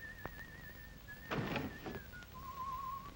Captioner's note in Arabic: يصفر; يغلق المكتب بصوت مرتفع; يصفر